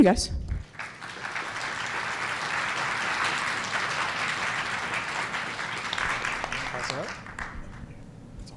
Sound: applause

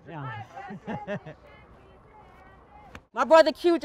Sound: laughter

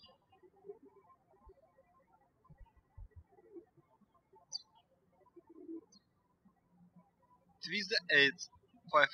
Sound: birds chirping

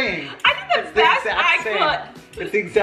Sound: laughs

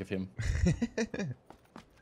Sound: laughing

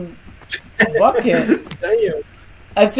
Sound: laughing

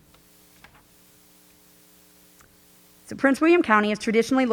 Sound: page rustling

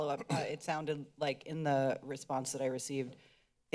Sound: clears throats

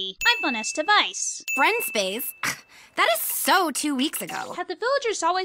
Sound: scoffs

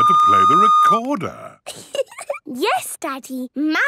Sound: giggling

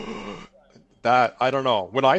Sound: gasps

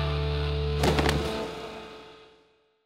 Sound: thud

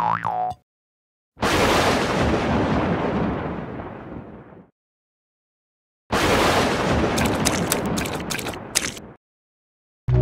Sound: thunder is raining

